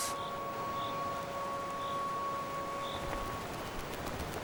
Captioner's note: cricket chirping